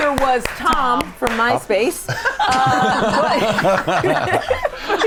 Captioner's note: all laughing